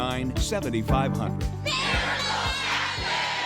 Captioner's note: crowd